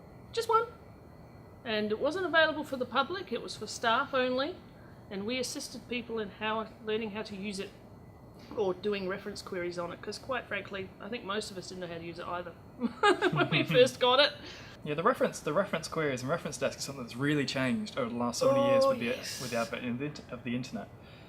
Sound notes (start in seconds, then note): 12.9 laughs